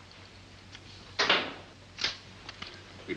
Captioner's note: light switch clicks